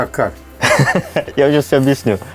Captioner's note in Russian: смеётся